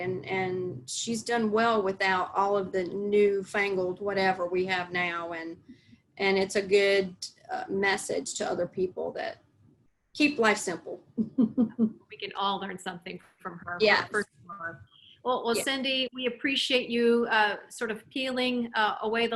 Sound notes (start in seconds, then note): 11.2 laughs